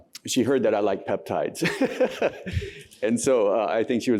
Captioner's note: laughter